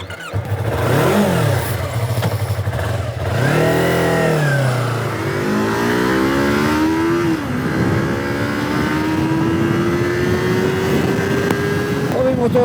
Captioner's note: engine start; engine sound